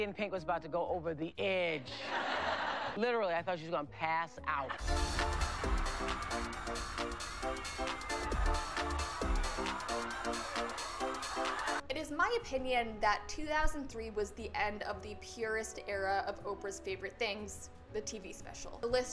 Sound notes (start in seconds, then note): 1.9 audience laughs